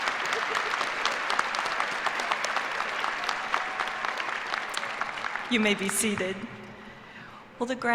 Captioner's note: cheers and applause